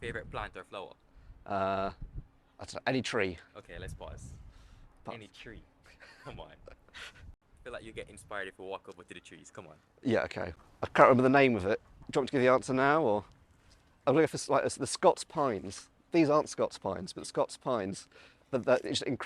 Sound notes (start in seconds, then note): 5.9 laughing